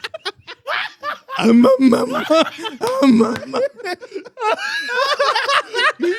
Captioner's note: laughing; speaking In Foreign Language